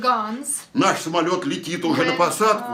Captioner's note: foreign language